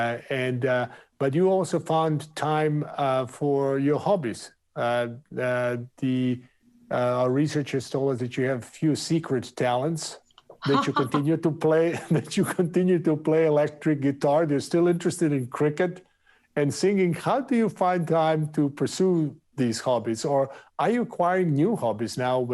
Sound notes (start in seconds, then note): 10.6 Indra laughs; 11.8 laughs